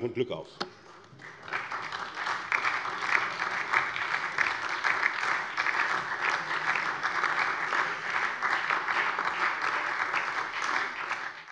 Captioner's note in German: Beifall SPD